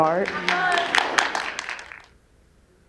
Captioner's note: applause